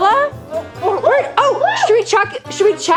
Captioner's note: exciting gorilla sounds